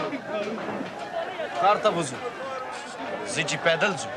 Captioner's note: speaks Pashto